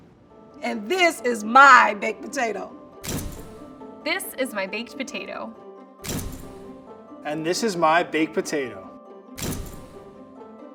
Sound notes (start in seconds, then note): 3.0 camera shutter snapping; 5.8 camera shutter snapping; 9.4 camera shutter snapping